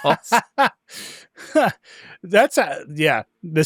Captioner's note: laughs